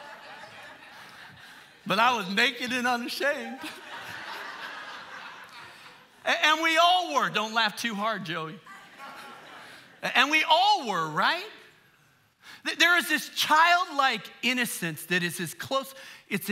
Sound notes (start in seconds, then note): 2.7 congregation laughing